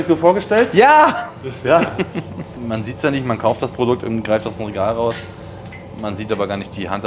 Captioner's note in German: gelächter